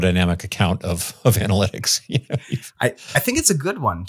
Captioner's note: chuckles